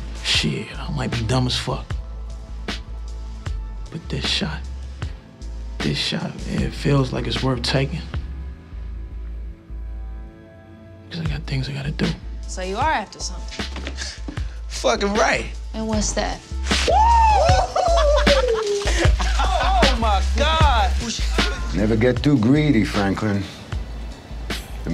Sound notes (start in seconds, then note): 16.8 cheering; 17.4 laughing